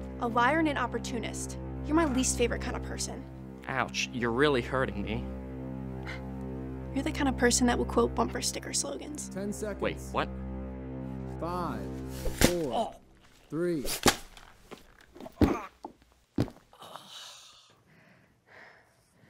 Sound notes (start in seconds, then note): 13.9 bashing; 15.2 groaning